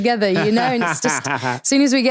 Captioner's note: laughing